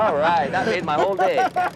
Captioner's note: laughter